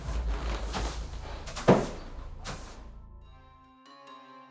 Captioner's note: broom scrapes; anxious music